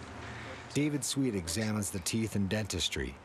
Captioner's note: voiceover